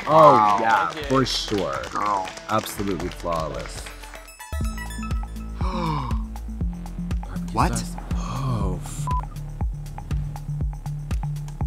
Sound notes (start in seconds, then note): 5.5 Trixie gasps